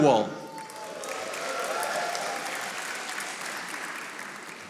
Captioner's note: audience applauding